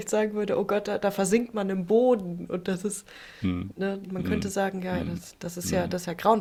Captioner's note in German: räuspern